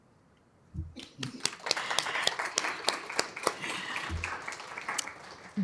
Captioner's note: applause